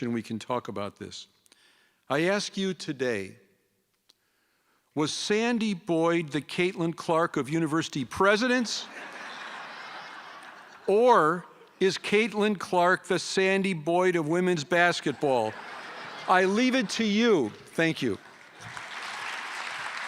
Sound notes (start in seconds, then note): 13.1 laughter